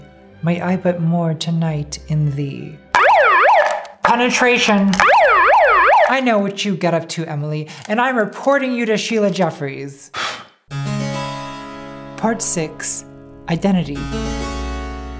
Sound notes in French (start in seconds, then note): 2.9 Alarme; 5.0 Alarme; 10.2 Souffle bougie